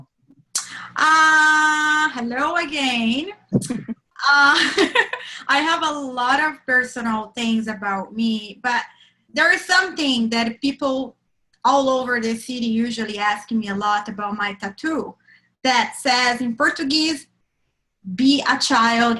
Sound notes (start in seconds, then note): 3.6 chuckles